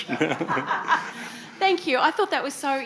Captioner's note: audience laughing